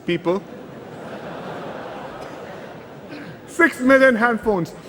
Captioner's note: laughter